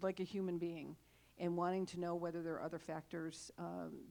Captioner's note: none